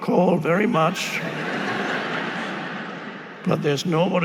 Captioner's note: audience laughing